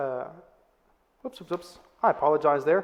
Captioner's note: exclaims